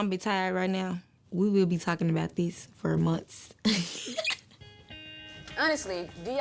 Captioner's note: laughs